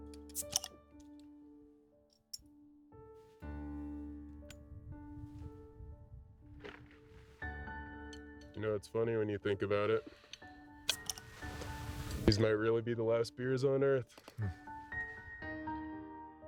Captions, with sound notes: (beer popping) - You know, it's funny when you think about it. These might really be the last beers on earth.